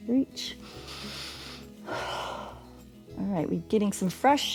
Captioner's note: inhales and exhales